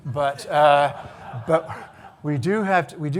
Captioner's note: audience laughing